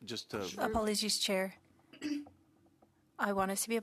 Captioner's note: speaking French